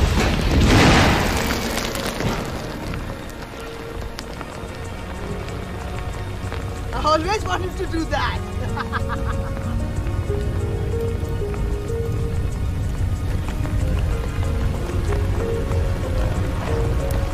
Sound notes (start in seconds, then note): 0.0 loud explosions; 1.1 fire crackling; 7.0 laughs; 10.4 solemn music